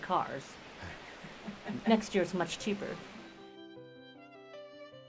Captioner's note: laughing